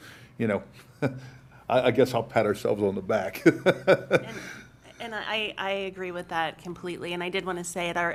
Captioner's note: laughter